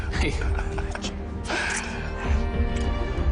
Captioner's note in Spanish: Ríe